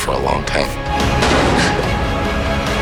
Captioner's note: gasps